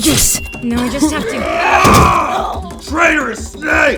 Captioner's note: wood cracks